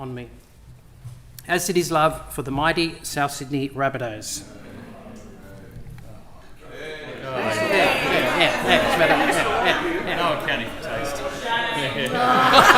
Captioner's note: cheers and laughter